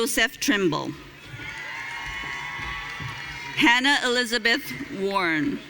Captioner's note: audience cheering